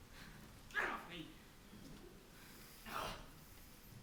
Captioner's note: sounds of struggle